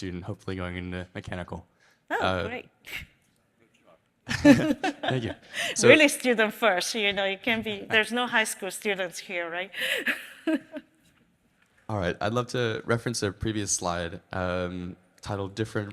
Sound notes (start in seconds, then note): 9.8 laughs